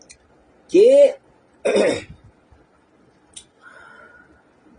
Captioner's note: clears throat